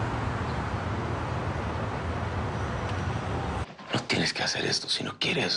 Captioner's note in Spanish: Bullicio de la calle